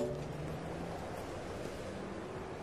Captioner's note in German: Leiser Straßenlärm